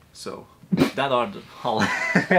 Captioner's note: sneezing